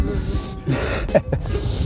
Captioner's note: laughter